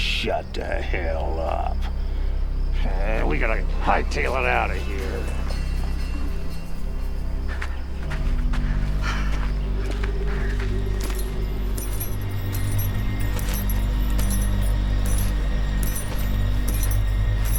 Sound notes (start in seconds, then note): 2.5 dramatic music; 7.4 shoes clanking